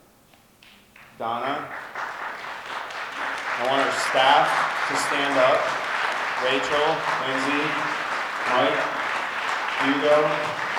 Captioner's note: audience applause